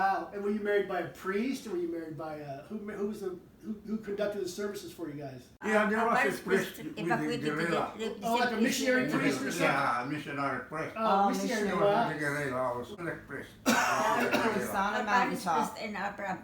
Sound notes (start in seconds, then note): 13.6 coughing